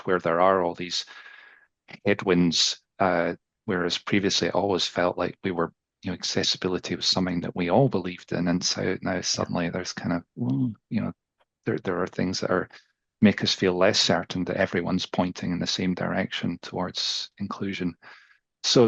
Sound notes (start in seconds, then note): 10.5 groans